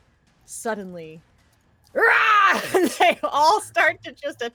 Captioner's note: dolls and spiders scream